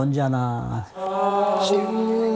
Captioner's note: everyone sighs